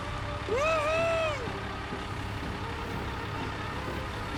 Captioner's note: engine